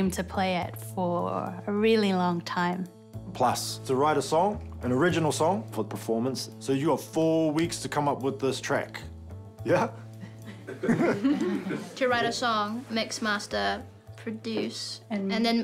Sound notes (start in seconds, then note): 10.2 chuckles